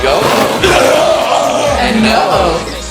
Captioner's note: screaming in pain